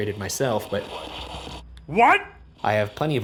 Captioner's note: static